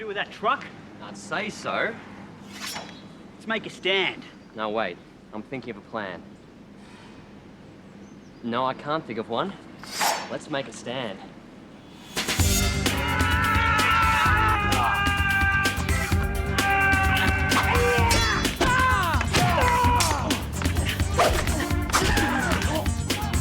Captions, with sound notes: to do with that truck? - I'd say so. - Let's make a stand. - No wait, I'm thinking of a plan. No, I can't think of one. Let's make a stand. (upbeat dramatic music) (John and Gene yelling) (thumping and clanging) (men groaning and yelling)